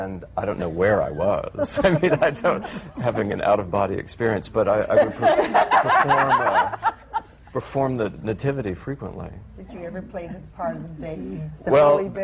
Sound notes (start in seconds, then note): 0.6 he laughs; 4.8 laughter